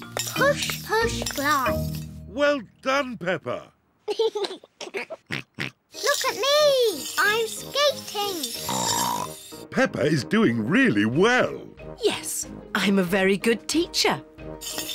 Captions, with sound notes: Push, push, glide. -Well done, Peppa! -(GIGGLES) Look at me! I'm skating! (SNORTS) Peppa is doing really well. Yes, I'm a very good teacher.